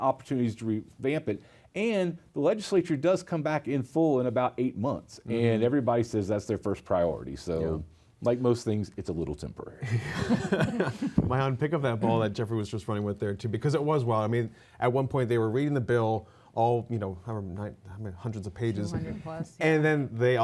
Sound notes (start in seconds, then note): 9.8 laughter